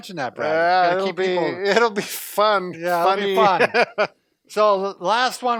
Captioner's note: laughs